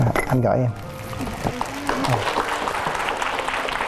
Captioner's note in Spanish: aplausos